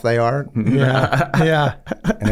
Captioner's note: Glenn laughs